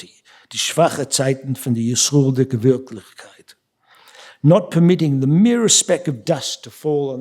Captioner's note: speaking yiddish